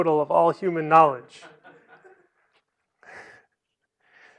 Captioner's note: laughter